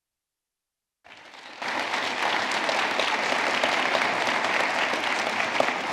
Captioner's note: audience clapping